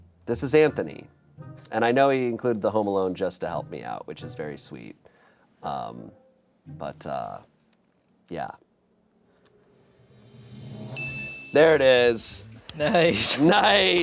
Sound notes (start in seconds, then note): 10.0 drum roll hisses; 11.0 bell chimes